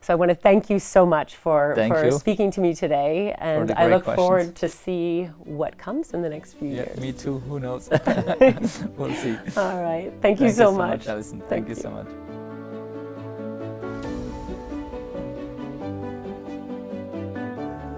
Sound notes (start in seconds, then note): 7.8 laughs; 13.0 gentle upbeat music